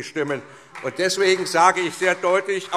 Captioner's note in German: Beifall SPD